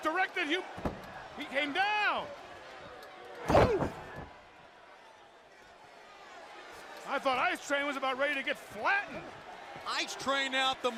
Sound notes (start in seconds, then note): 2.1 crowd chatter